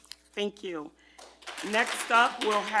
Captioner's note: group applauding